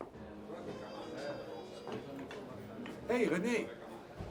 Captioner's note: people chatter indistinctly